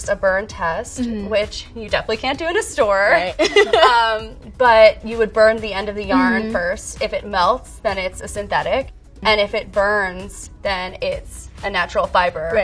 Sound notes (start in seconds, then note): 3.4 laughing